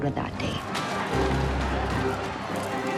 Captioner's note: crowd jeering